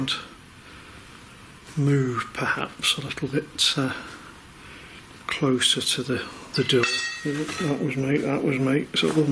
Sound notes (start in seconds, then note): 6.5 metallic clanking